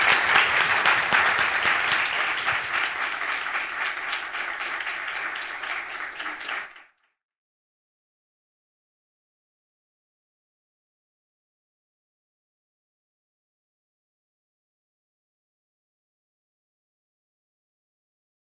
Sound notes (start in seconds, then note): 3.9 applause